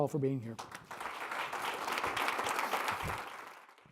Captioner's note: applause